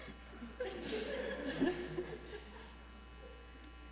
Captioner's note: laughter